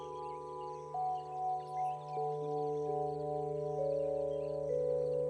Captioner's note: birds chirping continues